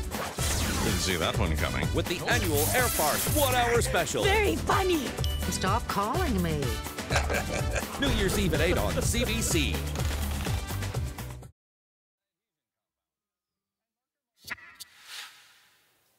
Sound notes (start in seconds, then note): 5.2 ding; 7.0 chuckles